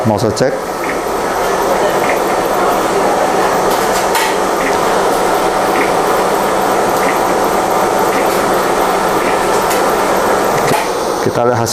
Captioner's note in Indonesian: suara mesin printer